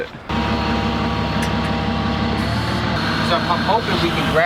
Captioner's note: machine operating